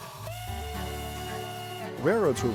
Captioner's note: loud train whistle